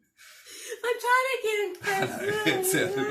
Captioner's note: laughing